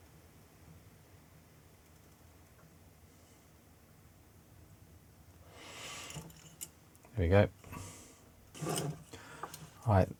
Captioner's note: clicking